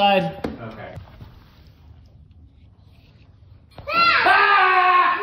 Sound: playfully screams

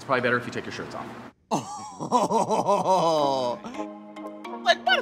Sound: laughing

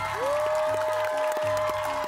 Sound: applause

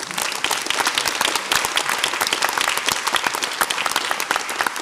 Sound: audience applauds

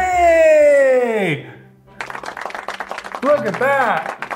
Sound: audience applauding

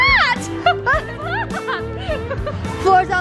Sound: laughter

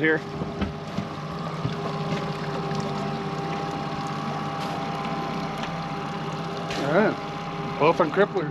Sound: boat engine idling

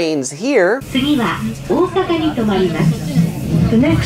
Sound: woman speaking in Japanese

